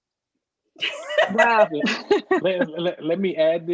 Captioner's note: all laughing